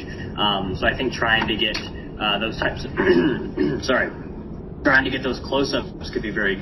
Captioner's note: clears throat